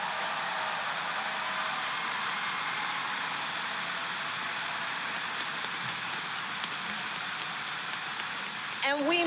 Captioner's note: applause